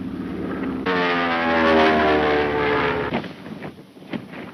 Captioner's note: engine roaring